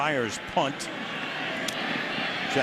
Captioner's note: whistling